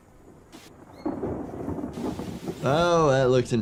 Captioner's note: thunder rumbling